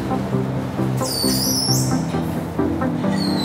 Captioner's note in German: Quietschen